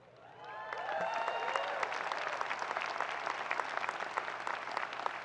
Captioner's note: audience cheering and applauding